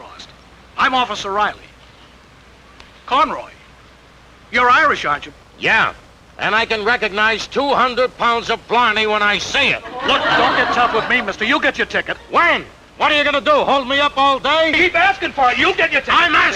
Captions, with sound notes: - I guess the fellas got their wires crossed. I'm officer Reilly. Conroy, you're Irish aren't you? - Yeah, and I can recognize 200 pounds of blarney when I see it! (audience chuckling) - Look, don't get tough with me mister, you'll get your ticket. - When? What are you gonna do hold me up all day? - Keep asking for it, you'll get